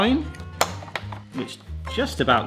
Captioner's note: sign clicks